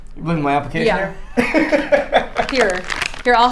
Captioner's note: laughing